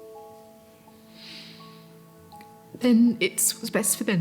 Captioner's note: inhales deeply